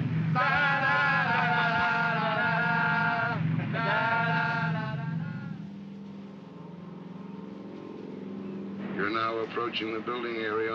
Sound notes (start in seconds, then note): 0.2 crew singing obnoxiously; 5.2 aircraft hums in distance